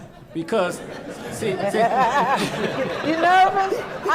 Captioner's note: laughing